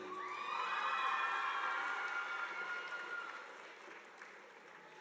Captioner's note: audience applauding